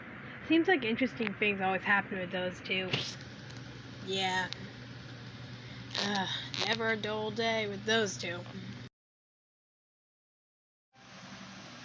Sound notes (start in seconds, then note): 5.8 sighs